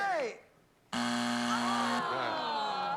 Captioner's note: buzzer